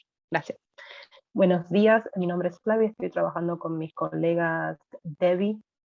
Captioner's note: woman speaking Spanish